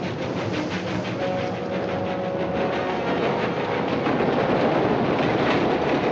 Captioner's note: train rumbling